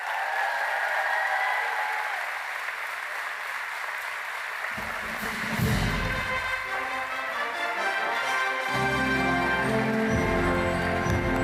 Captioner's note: applause